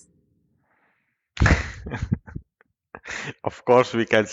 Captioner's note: laughter